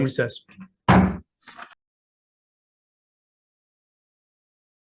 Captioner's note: gavel thudding